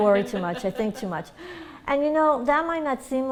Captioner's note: laughter